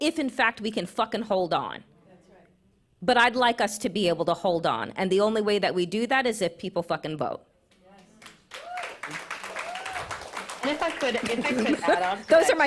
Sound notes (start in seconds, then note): 7.9 applause